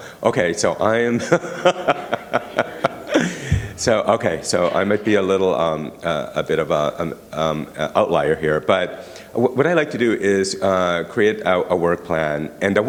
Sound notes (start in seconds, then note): 1.1 laughter